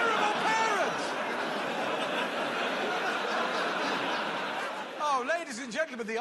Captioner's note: laughter